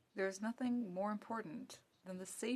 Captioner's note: speaking French